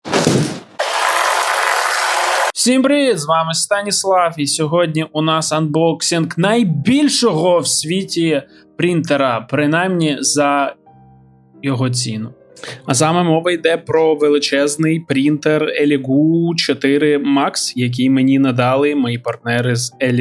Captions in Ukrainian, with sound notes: [оплески] всім привіт З вами Станіслав і сьогодні у нас анбоксинг найбільшого в світі принтера принаймні за його ціну А саме мова йде про величезний принтер Eligu 4 Max який мені надали мої партнери з